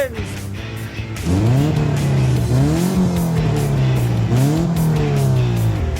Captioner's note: loud engine revving